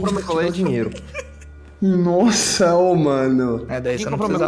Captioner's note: laughs